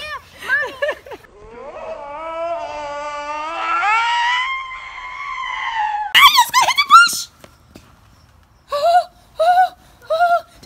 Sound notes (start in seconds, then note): 2.2 screams